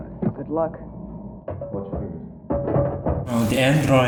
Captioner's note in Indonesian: Mendengus